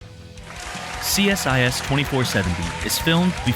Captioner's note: applause